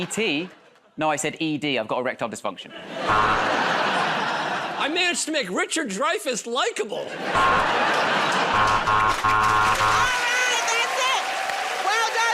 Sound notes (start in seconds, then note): 3.0 buzzer; 8.5 buzzer